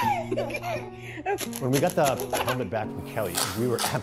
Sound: giggles

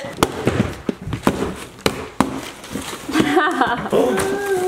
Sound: fists thudding

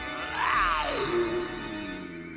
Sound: werewolf growling

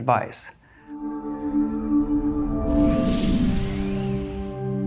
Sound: futuristic sound effect

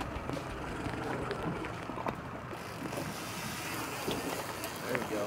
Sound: reel cranking

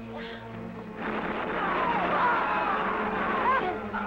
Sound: gun firing

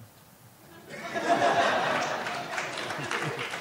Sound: laughing; applauding

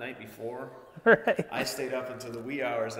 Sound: laughing

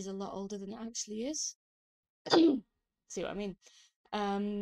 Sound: coughs

